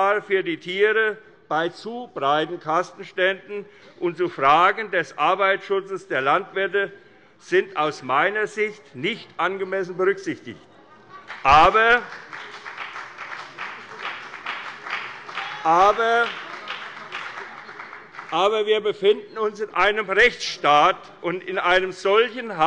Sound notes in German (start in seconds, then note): 11.2 Beifall bei der FDP und bei Abgeordneten der CDU